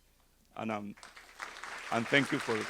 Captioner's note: audience applauding